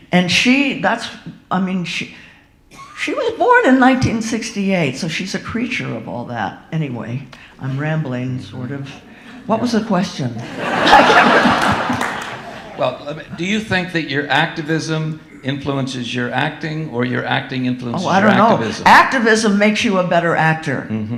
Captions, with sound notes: And she, that's, I mean, she was born in 1968, so she's a creature of all that. Anyway, I'm rambling sort of. What was the question? (audience laughing) Well, do you think that your activism influences your acting, or your acting influences your activism? Oh, I don't know. Activism makes you a better actor.